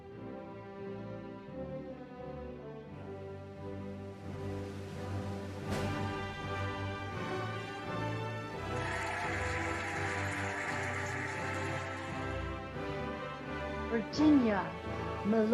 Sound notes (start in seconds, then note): 0.3 cheerful music; 8.6 cheering and applauding